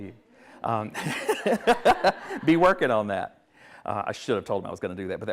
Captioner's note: everyone laughs